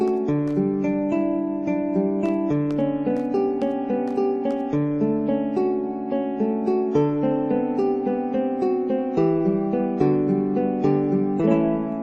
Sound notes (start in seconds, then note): 7.0 psst